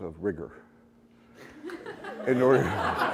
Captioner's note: laughter